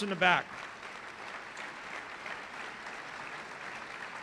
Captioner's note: applause